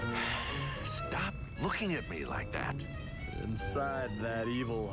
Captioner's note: sighs